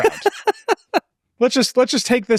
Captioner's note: laughs